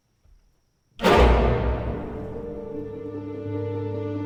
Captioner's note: wood Floor Creaking